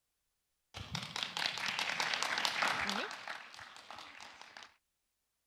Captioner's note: aplodit